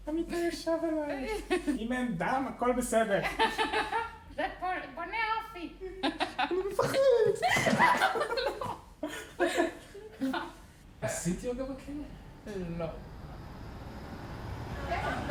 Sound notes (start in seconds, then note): 0.1 speaking foreign language; 2.9 laughing; 4.6 speaking foreign language; 7.9 laughing; 10.9 speaking foreign language